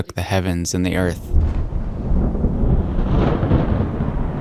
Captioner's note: rumbling